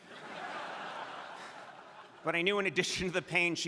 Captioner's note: crowd laughing